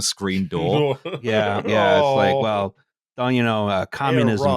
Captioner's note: laughing